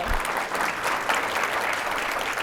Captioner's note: applause